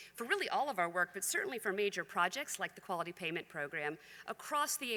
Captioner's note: none